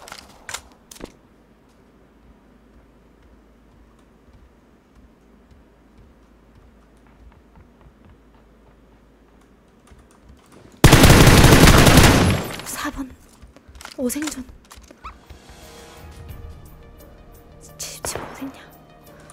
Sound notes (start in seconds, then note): 7.3 footsteps